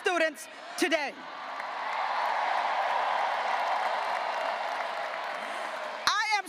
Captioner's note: graduates cheering and applauding